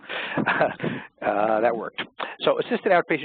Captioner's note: laughs